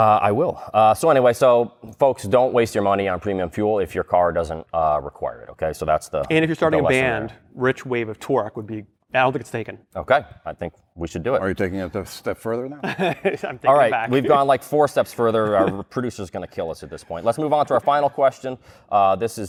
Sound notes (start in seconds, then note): 12.8 laughter